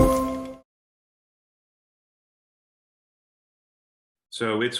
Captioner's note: silence